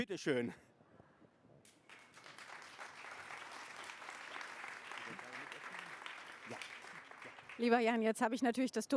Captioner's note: applause